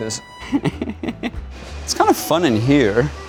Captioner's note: laughs